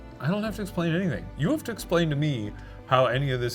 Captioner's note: none